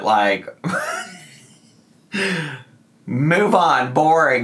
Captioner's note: laughing